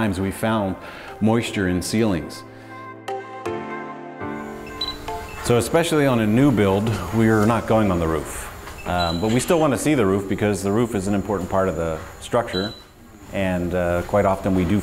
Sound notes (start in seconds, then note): 2.4 lively music; 4.4 drone beeps